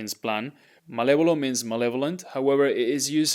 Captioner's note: speaking in Spanish